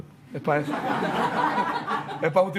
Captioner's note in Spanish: Risas